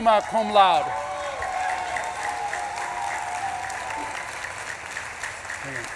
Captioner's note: audience claps and cheers